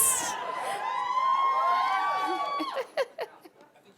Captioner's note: audience cheering; laughs